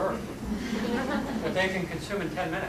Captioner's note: laughter